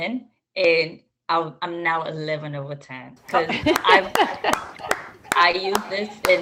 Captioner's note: applause